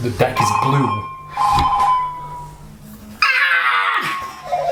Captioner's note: phone rings